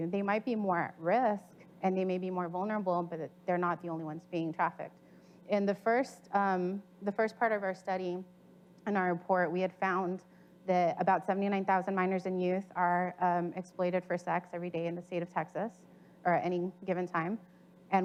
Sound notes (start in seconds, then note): none